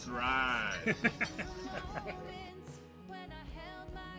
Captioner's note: laughter